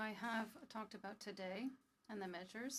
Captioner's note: speaking French